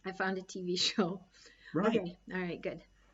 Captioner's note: laughs